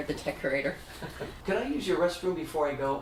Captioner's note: chuckles